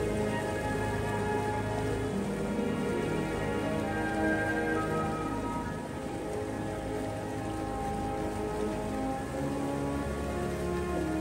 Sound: waterfall Sounds

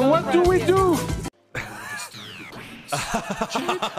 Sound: laughs; lower pitch

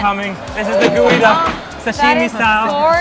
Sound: cash register ringing

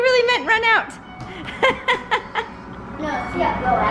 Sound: laughs

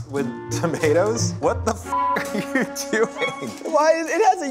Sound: beep

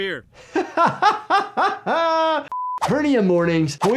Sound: laughing

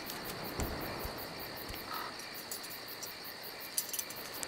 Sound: forest noises

